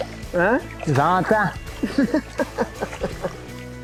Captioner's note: laughing